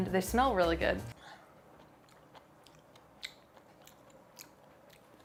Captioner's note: chewing